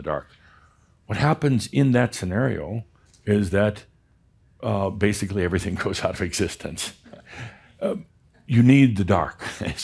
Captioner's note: chuckles